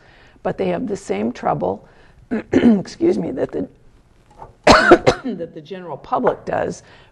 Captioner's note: coughs